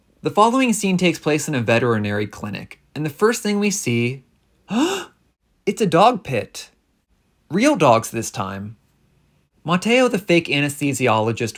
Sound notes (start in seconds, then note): 4.7 gasp